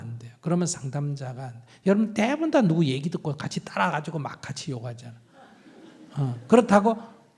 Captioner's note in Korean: 청중 웃음